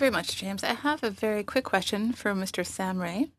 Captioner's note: speaking French